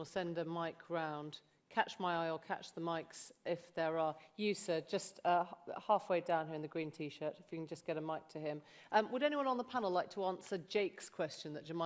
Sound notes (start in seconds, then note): none